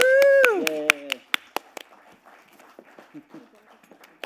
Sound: all applauding

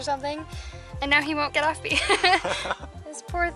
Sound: laughter

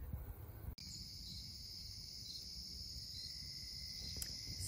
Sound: crickets chirping

